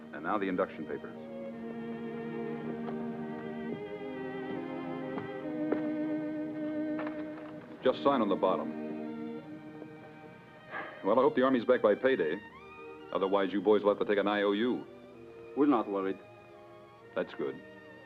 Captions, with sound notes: And now the induction papers. (gentle orchestral music) Just sign on the bottom. (sighs) Well, I hope the Army's back by payday. Otherwise you boys will have to take an IOU. - We're not worried. - That's good.